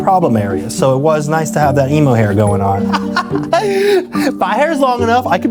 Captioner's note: laughs